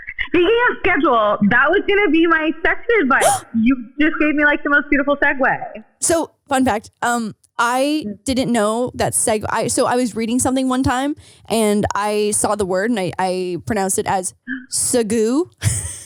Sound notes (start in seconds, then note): 3.2 gasps